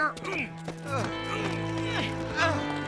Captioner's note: all grunting; groaning